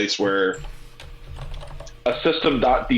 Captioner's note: keyboard keys clanking